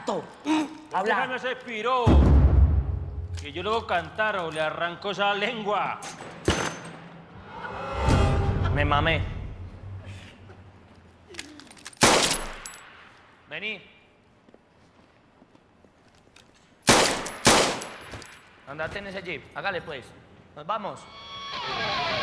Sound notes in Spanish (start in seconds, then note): 12.0 Disparo; 16.8 Disparos